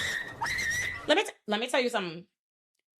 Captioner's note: squeaking